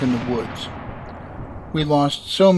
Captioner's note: explosion